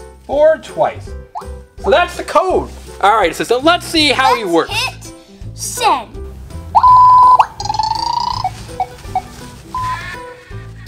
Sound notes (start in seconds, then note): 6.7 beeping